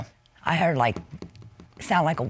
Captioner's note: taps